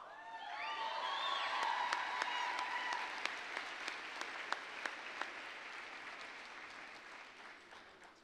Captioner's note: applause, cheering